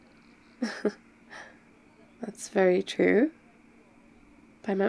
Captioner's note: laughs